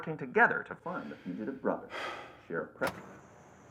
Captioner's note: sighs